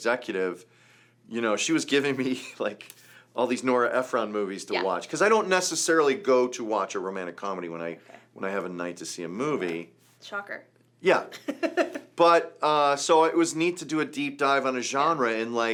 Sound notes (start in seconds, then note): 11.4 laughs